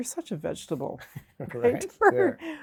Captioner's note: laughing